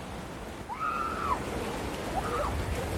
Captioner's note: excited screaming